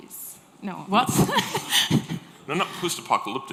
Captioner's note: laughs